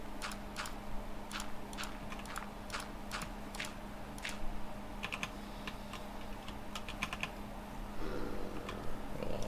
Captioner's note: typing